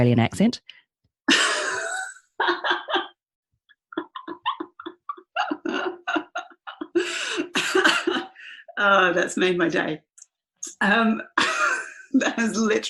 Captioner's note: laughs